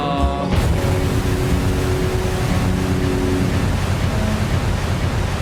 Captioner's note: roar of rocket engines